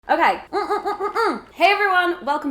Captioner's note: moans